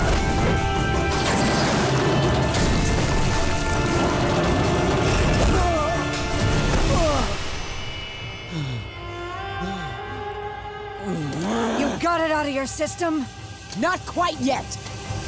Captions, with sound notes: [grunting] [panting] You got it out of your system? Not quite yet!